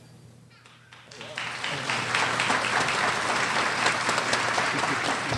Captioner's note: audience applause